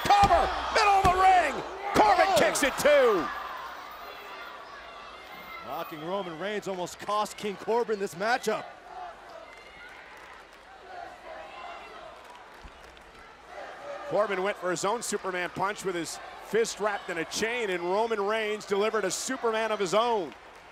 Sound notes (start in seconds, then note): 3.7 crowd shouting; 12.2 clapping